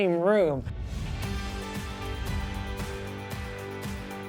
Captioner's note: screen whooshing